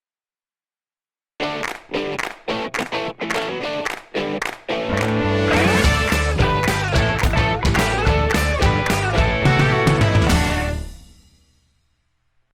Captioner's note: claps